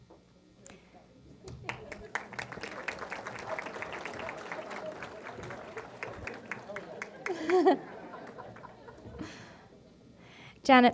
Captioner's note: applause